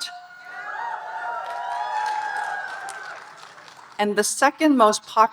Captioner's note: audience cheering and applauding